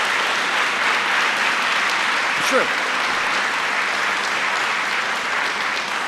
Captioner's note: applause